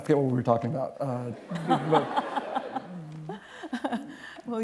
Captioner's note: laughter